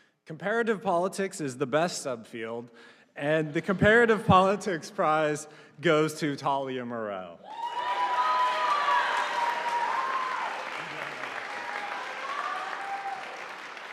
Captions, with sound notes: Comparative Politics is the best subfield and the Comparative Politics Prize goes to Talia Mirel. (audience applauding)